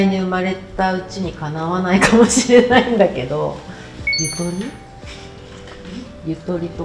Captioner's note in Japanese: 笑い